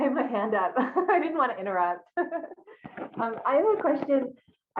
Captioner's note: laughs